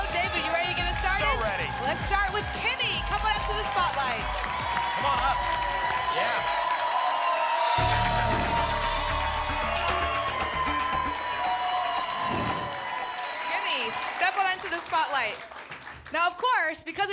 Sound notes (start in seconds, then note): 6.0 applause and cheering cont; 10.5 applause and cheering cont; 12.2 whoosh